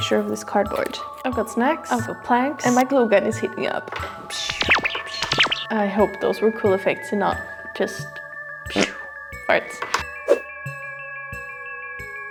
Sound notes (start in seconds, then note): 4.3 pew pew; 10.1 fart